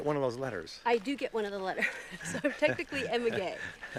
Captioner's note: laughs